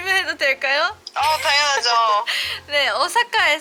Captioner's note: haha